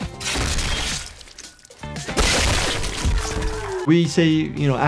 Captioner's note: gunshot rings